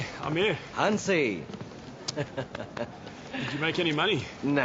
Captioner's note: chuckles